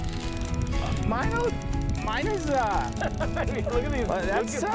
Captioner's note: laughing